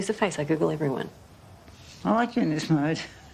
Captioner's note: laughs